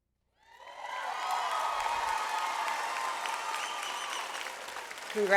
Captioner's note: audience applauds